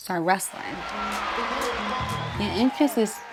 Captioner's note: audience cheers